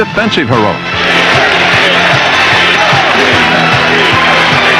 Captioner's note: crowd chanting, cheering